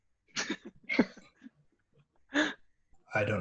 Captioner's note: laughter